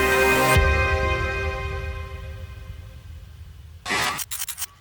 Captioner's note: graphic booms; graphic scratching